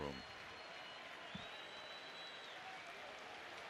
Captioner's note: crowd cheering